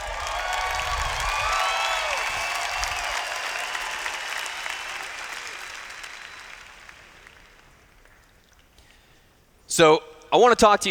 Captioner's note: cheers